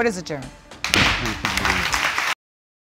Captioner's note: applause